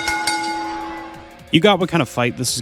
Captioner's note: ding ding ding